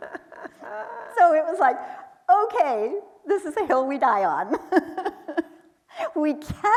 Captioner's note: laughing; chuckles